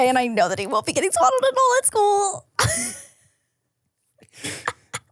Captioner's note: laughs